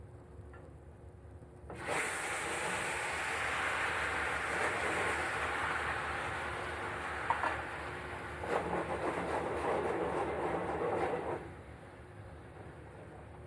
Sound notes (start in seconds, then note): 1.7 sizzling